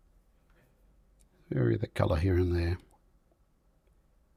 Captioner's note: silence